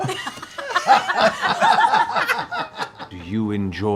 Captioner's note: laughter